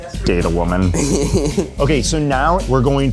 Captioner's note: laughs